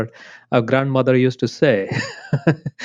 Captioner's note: laughs